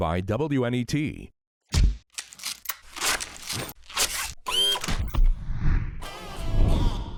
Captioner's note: cONSTRUCTION SOUNDS